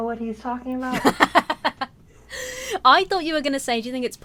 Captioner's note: laughs